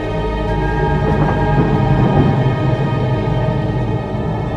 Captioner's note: thunder claps